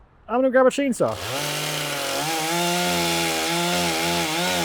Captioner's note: saw rumbling